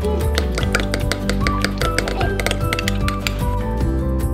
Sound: spoon stirring

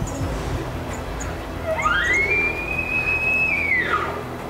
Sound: caller bugling

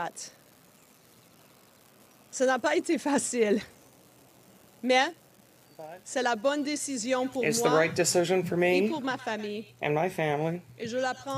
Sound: speaking French

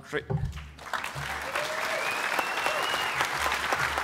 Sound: applause

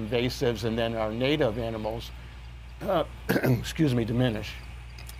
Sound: clears throat

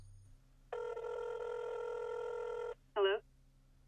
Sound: phone rings

